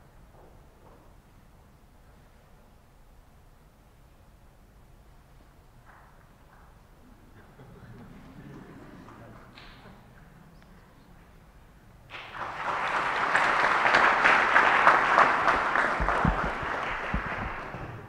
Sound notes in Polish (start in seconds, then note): 12.0 oklaski